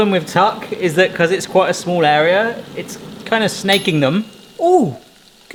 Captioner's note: air fryer pings